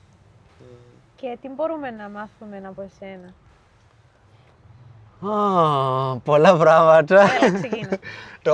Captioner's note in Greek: γέλια